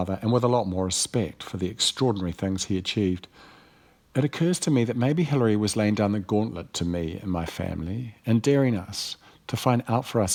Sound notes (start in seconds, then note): none